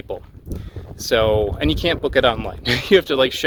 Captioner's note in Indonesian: tertawa